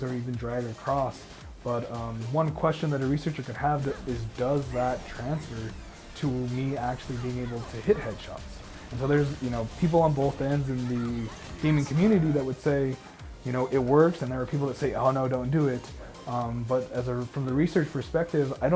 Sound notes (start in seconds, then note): 8.3 gunshots banging